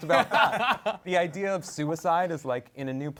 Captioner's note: laughs